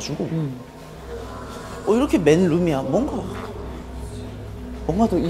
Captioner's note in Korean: 의아한 숨소리